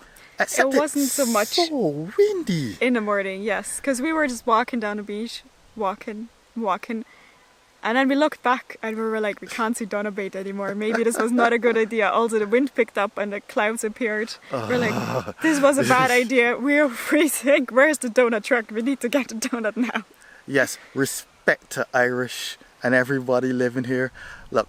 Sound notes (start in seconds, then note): 10.9 laughter; 14.4 sighing